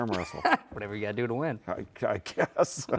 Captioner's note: laughs; laughs